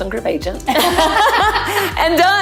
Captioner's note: both laughing